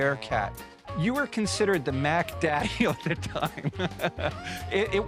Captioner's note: laughs